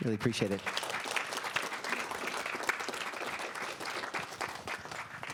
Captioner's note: audience applauds